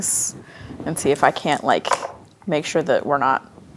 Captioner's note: dice rolling